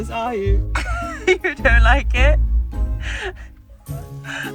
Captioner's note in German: lacht; lacht